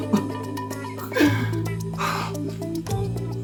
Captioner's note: sobbing